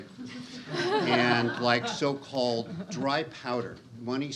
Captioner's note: audience laughs